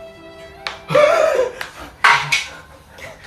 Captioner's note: whispering